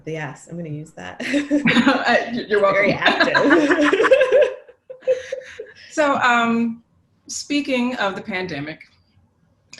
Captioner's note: laughs